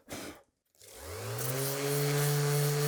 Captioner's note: blows air; sander whirring